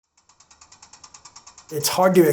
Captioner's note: bicycle wheel clicking